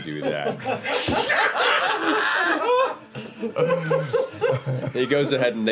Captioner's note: laughter